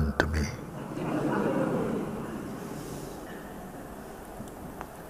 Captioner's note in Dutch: gelach